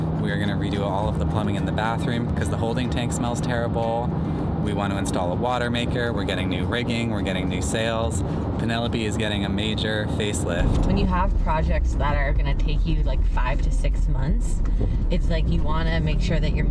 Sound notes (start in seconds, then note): none